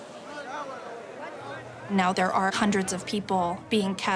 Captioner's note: talking in background